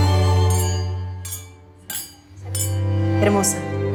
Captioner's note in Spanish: Tintineo de las copas